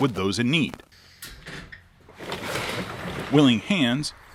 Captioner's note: step creaking; door clattering